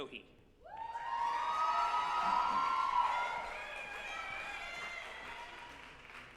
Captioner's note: group applauding and cheering